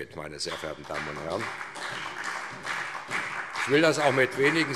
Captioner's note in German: Beifall SPD